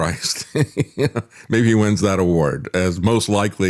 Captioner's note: laughs